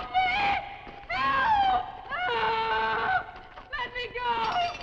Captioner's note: screams